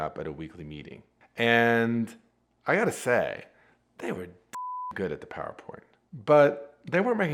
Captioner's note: beep